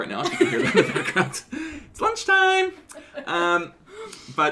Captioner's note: laughter